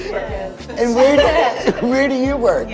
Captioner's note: giggling